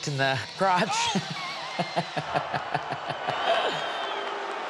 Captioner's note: laughs